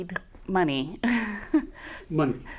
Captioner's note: laughs